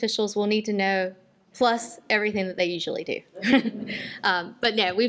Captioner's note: laughter